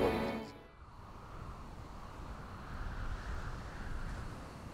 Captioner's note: wind blowing